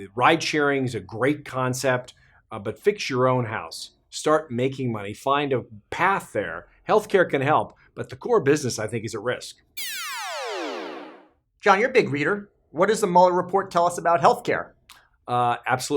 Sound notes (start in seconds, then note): 9.8 electronic noise